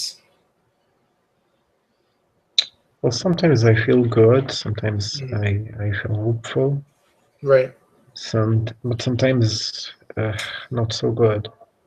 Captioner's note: sigh